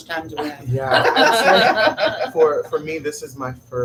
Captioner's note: laugh